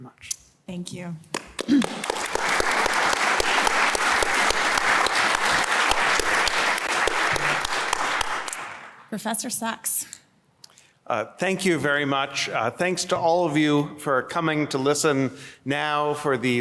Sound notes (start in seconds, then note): 1.3 applause